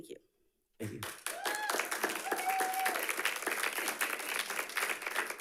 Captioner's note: audience clapping